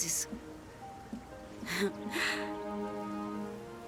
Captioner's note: sighs